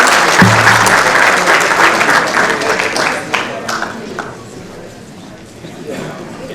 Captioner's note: applause